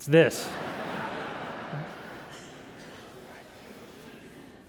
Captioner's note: audience laughing